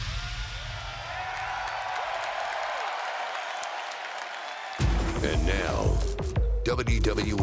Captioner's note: crowd cheering